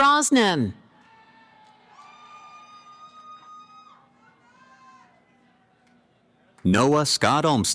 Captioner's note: cheering